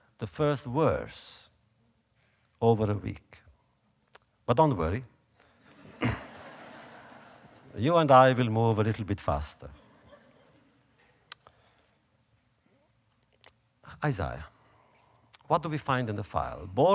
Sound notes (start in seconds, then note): 5.6 audience laughter